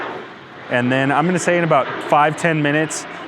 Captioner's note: plane flies overhead